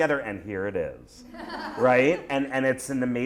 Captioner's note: laughter